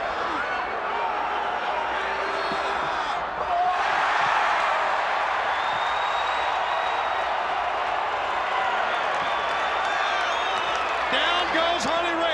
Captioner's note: crowd cheering